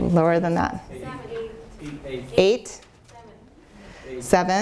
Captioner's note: audience calls out answers